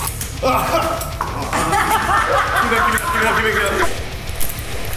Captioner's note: laughter